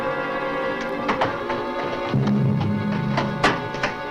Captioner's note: suspenseful orchestral music; door closes